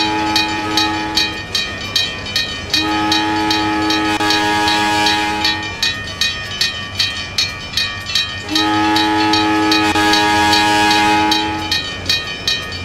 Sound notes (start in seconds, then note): 2.7 CNW Cab Car horn; 11.1 CNW Cab Car horn, railroad crossing bell